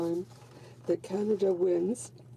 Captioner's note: speaking French